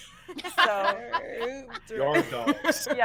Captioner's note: all laughing